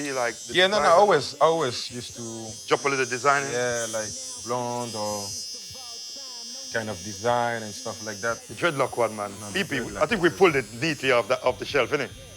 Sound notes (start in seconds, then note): 5.4 clippers buzzing